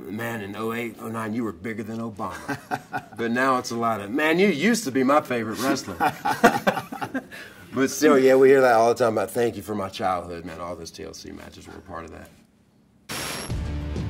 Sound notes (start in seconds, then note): 2.2 laugh; 5.5 laugh